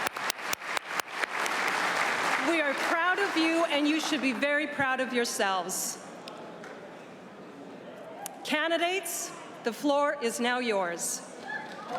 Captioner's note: applause